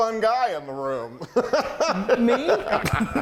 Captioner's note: laughing loudly